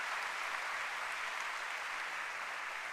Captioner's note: applause